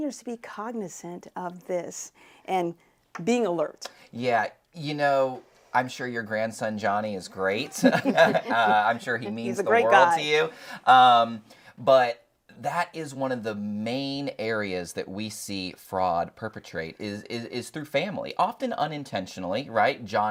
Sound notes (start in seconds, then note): 7.6 laughs